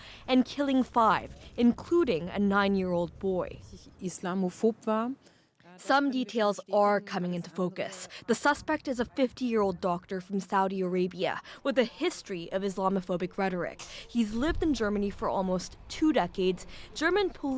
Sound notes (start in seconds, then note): 9.6 speaking alternate language